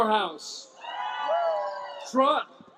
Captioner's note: cheering, applause